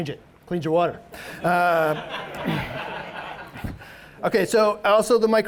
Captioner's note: audience laughs